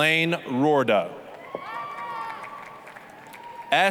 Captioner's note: applause, cheering